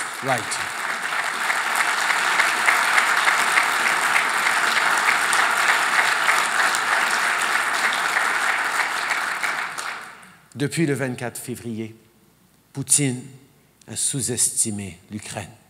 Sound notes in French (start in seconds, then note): 0.0 Applaudissements